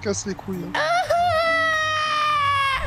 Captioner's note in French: cri de détresse